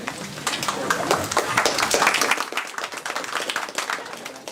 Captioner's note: applause